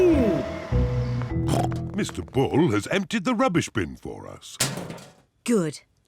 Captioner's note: snorts